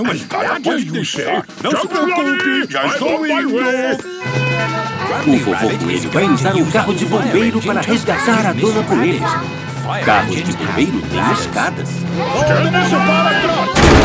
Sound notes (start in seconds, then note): 4.4 sirens